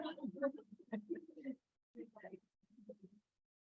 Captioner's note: group laughs